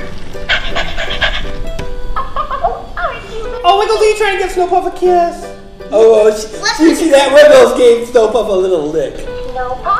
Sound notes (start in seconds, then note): 0.4 dog panting; 2.1 Minnie laughs